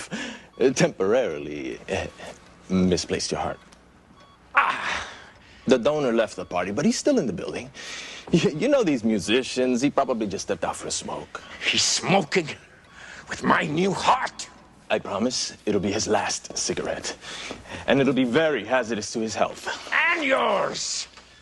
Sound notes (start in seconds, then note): 4.5 Стенания